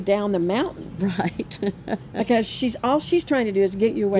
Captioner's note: chuckles